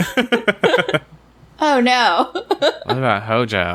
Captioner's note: laughs